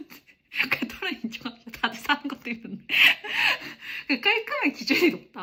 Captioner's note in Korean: 웃음